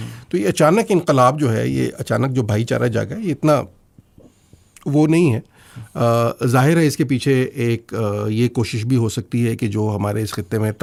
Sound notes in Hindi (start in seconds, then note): none